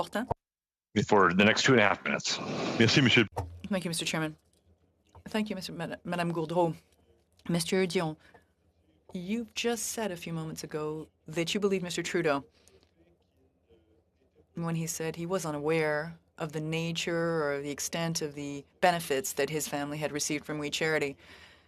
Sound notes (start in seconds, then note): 2.7 speaking french